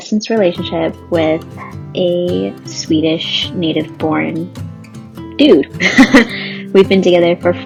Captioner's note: laughs